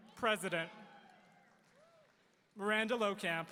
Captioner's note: audience cheering